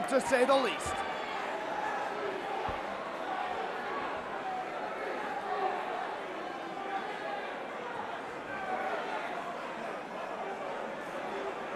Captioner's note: crowd cheering